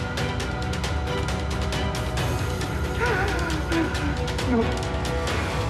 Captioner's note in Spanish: llanto